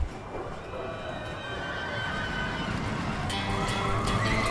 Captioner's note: riders screaming; upbeat music